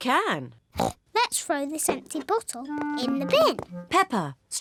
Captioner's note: snorts